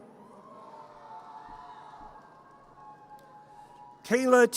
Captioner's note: audience cheers